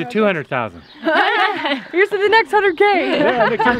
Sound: laughter

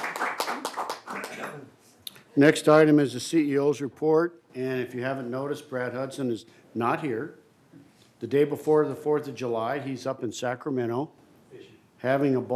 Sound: applause

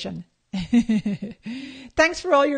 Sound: laughing

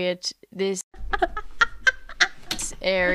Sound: laughing

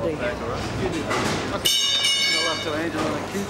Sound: metal clangs

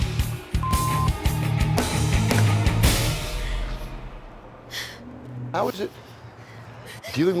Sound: beep

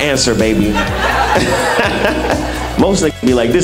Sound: laughing

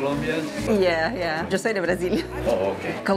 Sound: in Spanish

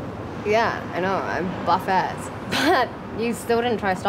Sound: chuckles

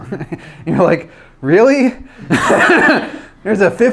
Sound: laughs; laughs

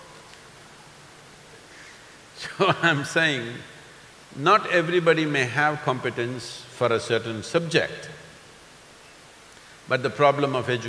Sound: laughs

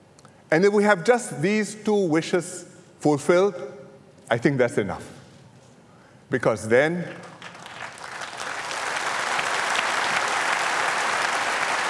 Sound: applause

